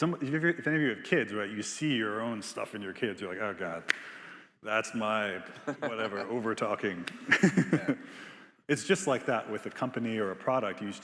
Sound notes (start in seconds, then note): 5.5 laughs; 5.6 Biz laughing